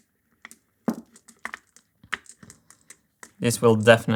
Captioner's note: marbles rolling